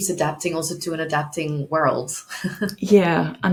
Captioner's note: chuckles